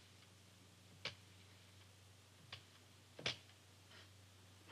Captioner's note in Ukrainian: клацання циферблата